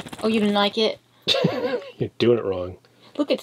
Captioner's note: laughs